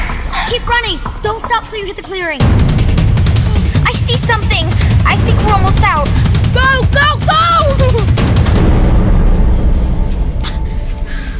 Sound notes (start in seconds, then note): 7.8 whimpering; 8.5 rapid drumbeat, music